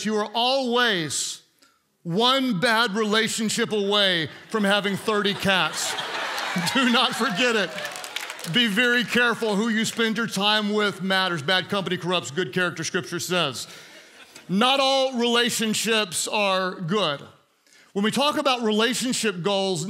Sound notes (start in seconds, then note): 6.0 congregants laugh